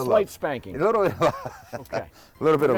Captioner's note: laughter